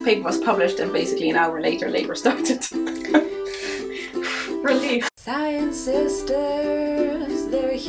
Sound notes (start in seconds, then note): 0.0 light guitar music; 2.0 chuckles; 3.0 exhales